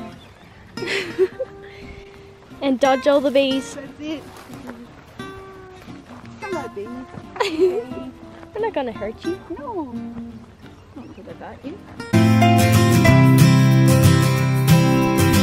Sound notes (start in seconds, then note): 0.7 laughs; 7.2 laughs; 12.4 pleasant music